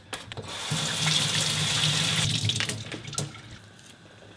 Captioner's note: water running